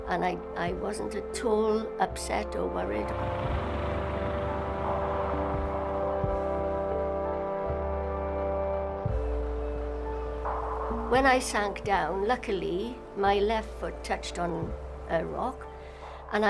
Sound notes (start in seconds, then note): 3.0 water whooshing; 4.6 pensive music